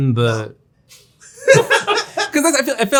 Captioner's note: all laughing